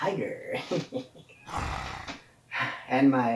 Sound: growl

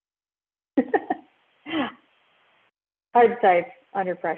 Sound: laughs

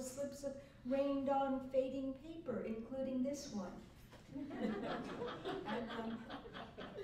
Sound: laughter

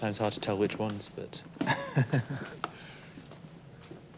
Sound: laughs

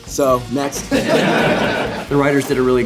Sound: laughing

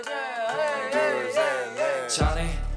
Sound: metronome Swings

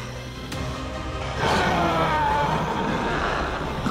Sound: dramatic music; Gabriel roaring

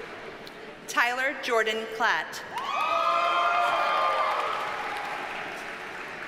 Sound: audience cheers and applauds

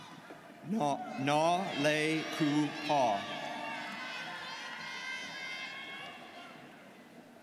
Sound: students cheering

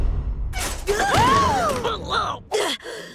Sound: gasping

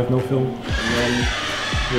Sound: loud squeaky door

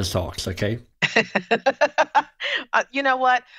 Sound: laughs

